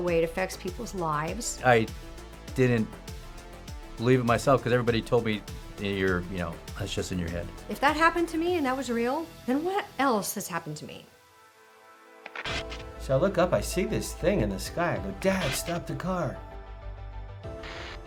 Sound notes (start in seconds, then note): 12.2 radio static hissing; 16.6 energetic suspenseful music